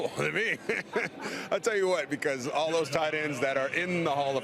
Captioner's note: laughs